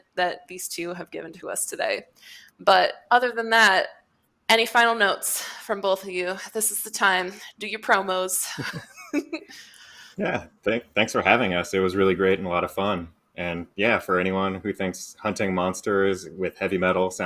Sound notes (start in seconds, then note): 8.4 chuckling